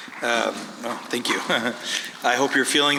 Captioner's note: chuckles